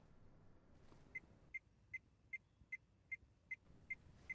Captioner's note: beeping